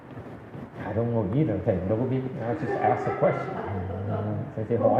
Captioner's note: audience laughs